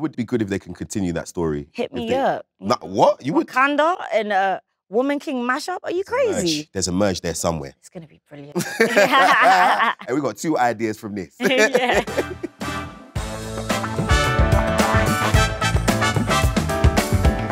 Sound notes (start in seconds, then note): 8.5 John and Letitia laughing; 11.4 chuckles; 11.4 laughs; 13.1 upbeat music